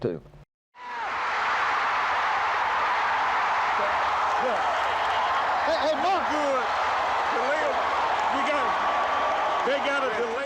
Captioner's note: crowd cheering